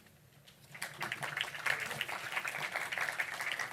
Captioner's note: applause